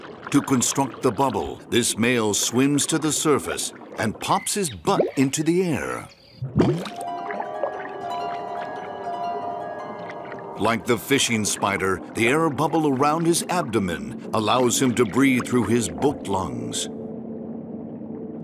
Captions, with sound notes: To construct the bubble this male swims to the surface and pops his butt into the air. (light music) (water trickling) Like the fishing spider, the air bubble around his abdomen allows him to breathe through his boat lungs.